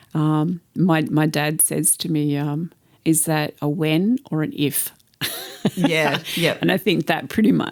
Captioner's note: laughter